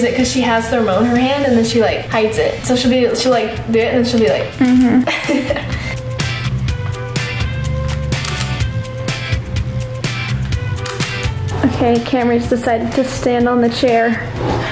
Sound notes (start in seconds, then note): 4.6 laughs; 8.1 camera clicking